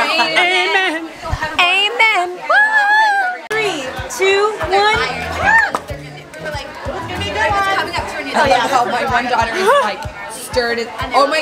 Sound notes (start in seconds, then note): 2.7 screams in sing-song voice